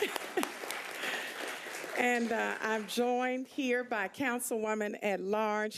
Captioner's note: cheering and applause